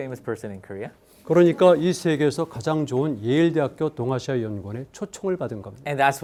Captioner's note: speaking in Korean